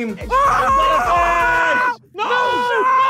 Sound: screaming

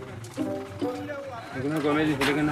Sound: Portuguese spoken audio

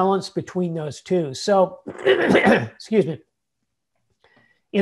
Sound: clears throat

